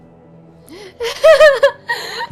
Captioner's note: laughs